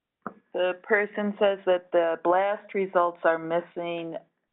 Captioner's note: voiceover